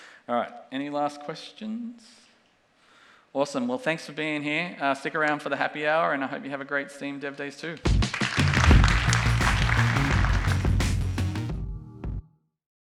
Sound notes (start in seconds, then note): 7.8 audience applauding; 9.4 rhythmic drum and bass music